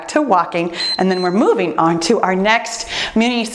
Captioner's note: timer beeps